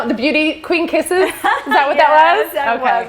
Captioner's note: laughs